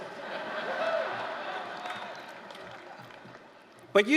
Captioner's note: laughter